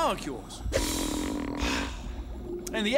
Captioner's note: creaking